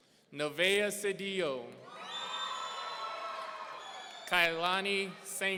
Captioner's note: audience cheering